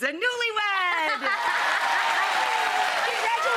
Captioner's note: audience cheering